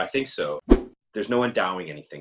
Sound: whoosh

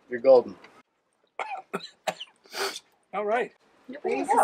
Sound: coughing

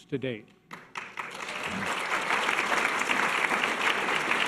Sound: audience applause

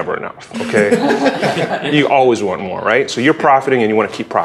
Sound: laugh

